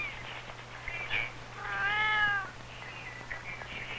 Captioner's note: kitten meows